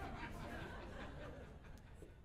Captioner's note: audience Laughing